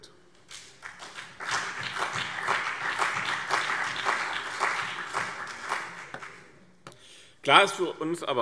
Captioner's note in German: Beifall BÜNDNIS 90/DIE GRÜNEN und CDU